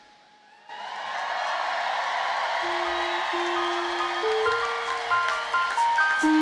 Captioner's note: audience cheers and applauds; lively music